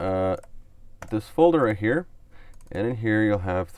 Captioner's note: clicks on mouse